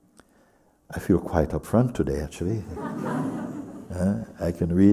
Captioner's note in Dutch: gelach